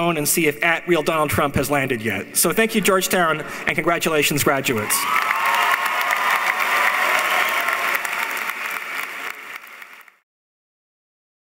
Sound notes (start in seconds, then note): 4.8 cheering; 4.8 applauding